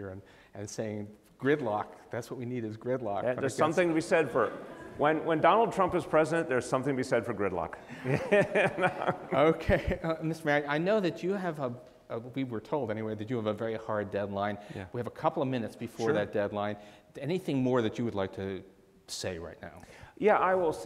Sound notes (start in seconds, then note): 3.6 audience laughs; 7.8 laughs